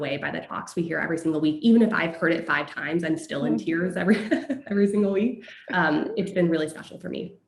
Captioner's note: laugh